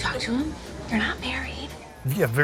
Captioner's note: whispers